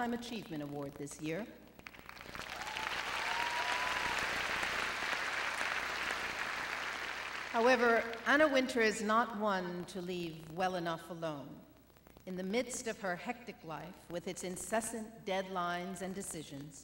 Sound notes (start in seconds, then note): 1.8 applause